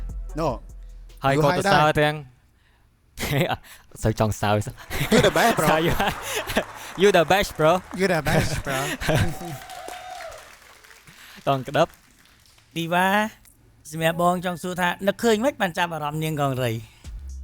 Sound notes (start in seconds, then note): 4.7 laughs